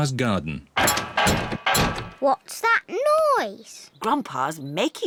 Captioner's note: clattering and clanging